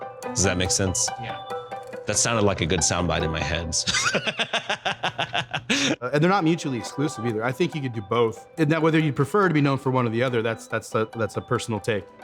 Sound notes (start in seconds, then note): 3.8 laughing